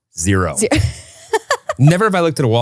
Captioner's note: laughing